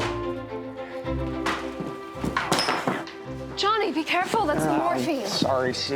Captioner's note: door opens, clattering